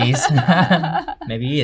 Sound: both chuckle

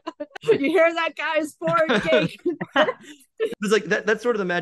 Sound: laughs

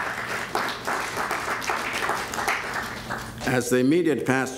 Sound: applause

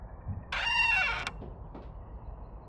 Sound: door creaking

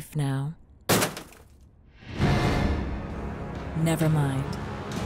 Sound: door thuds

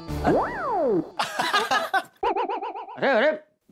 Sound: laughing

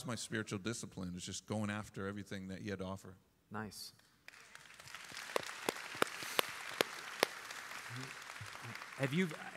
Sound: applause

